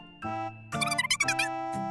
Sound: talking

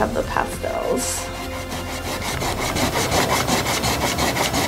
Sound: eraser rubbing

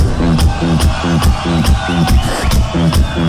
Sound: crowd cheering

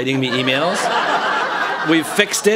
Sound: laughter

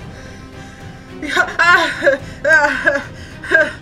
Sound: gasps

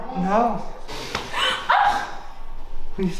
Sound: gasp

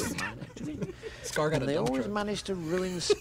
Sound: laughs

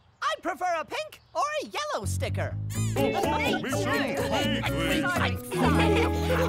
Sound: laughing

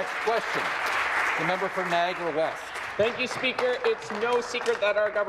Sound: applause

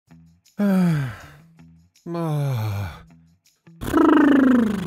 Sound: narrator sighing

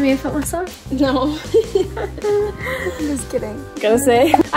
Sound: laughs

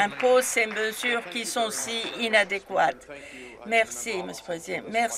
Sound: some Applause

